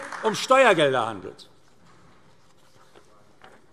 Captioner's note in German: Beifall AfD